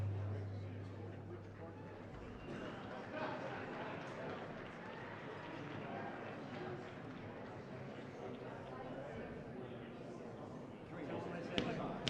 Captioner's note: applause